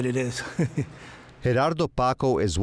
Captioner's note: laughs softly